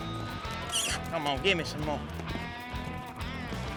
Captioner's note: calling